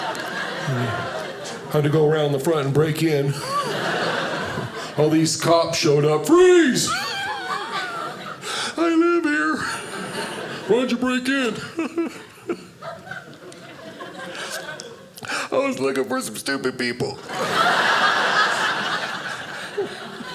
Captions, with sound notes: Had to go around the front and break in, all these cops showed up, "Freeze." I live here. "Why'd you break in?" (laughing) I was looking for some stupid people. (audience laughing) (audience laughing)